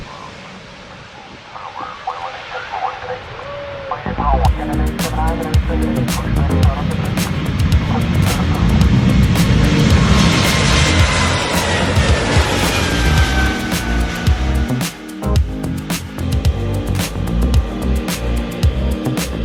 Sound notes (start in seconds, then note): 1.2 radio chattering; 4.6 funky pop music; 10.7 aeroplane engines roaring; 15.8 funky pop music